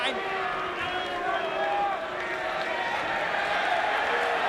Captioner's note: crowd exclaiming; crowd cheering